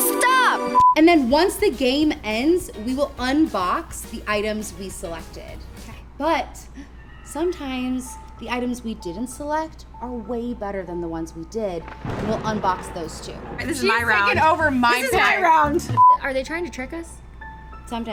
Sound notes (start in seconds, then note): 0.7 beep; 11.8 ominous music plays; 15.9 beep